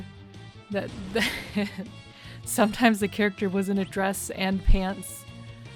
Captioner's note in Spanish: risas